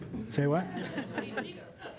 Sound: laughter

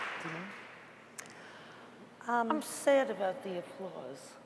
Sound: applause

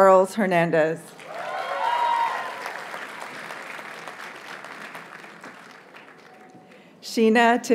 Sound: audience cheers and applauds

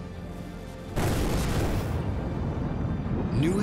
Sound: explosion

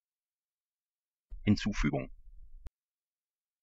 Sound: fast Pronunciation

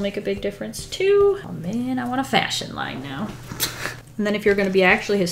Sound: sniggers

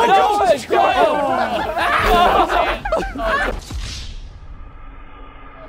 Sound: contestants laughing

